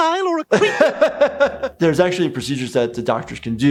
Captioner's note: laughs